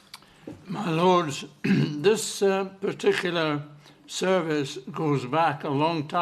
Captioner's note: clears throat